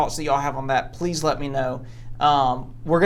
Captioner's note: none